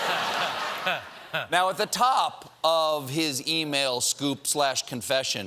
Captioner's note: laughter